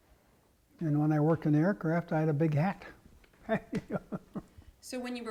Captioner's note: laugh